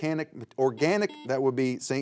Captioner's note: buzzer beeps